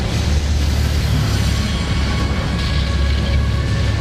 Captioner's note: fire roaring